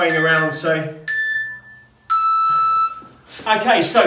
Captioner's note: beeping